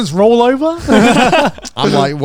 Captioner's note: group laughs